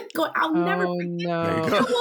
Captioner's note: laughing